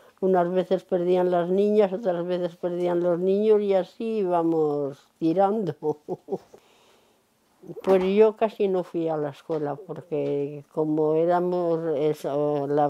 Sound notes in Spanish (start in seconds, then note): 5.7 Ríe